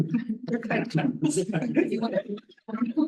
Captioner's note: audience chuckling